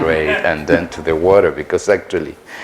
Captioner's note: laughter